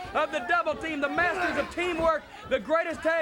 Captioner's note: wrestler grunting